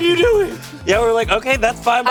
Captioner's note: beep